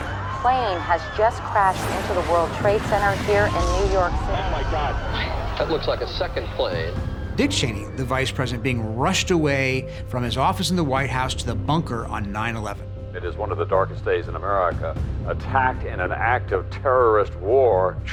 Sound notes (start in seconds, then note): 4.3 explosion